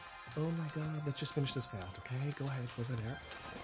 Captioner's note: speaks in english